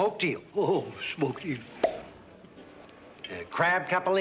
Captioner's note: pops